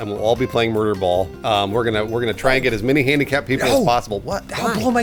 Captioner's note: whispering